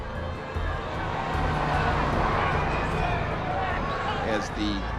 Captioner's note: yelling continues